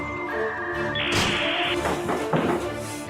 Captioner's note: door closing sounds